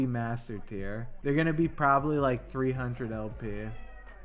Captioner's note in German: Meooow